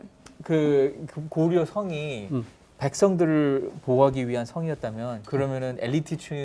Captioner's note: speaking in Korean